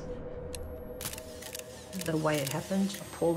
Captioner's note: camera clicking